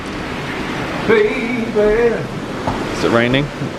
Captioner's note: wind rushes, sea surges